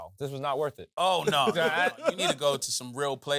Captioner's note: laughs